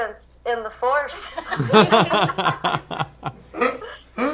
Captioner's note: laughter